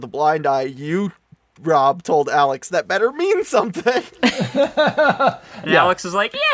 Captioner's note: laughs